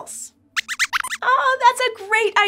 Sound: squeaks squeaks

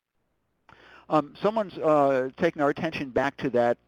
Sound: voiceover

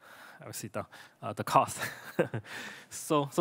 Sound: laughs

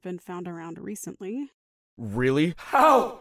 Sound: In Andy’s voice

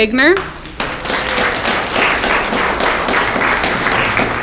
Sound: audience clapping

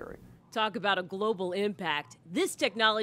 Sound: voiceover

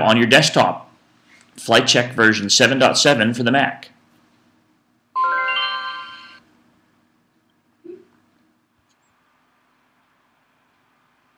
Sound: bells chime

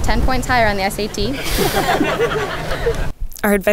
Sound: laughter

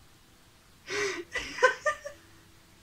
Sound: laughs

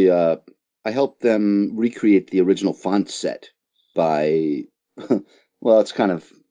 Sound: chuckles

